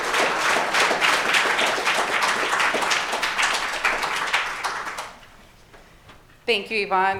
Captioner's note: applause